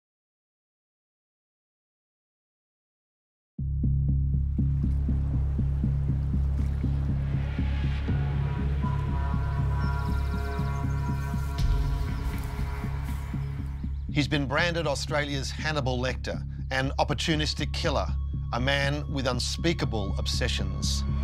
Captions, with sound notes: (water sloshing) (ominous music) - He's been branded Australia's Hannibal Lector, an opportunistic killer, a man with unspeakable obsessions.